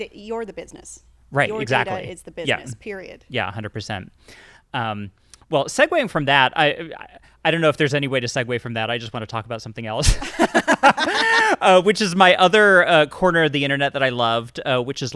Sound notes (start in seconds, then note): 10.0 both laugh